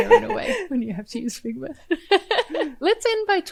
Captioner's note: laughs